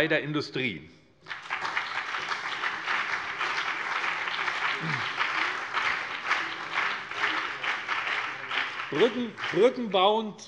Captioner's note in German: Beifall BÜNDNIS 90/DIE GRÜNEN und vereinzelt CDU